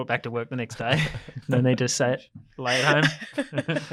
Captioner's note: group laughs; laughs